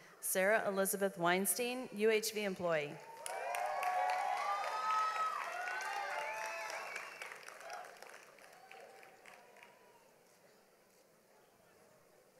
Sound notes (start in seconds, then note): 3.0 audience applauds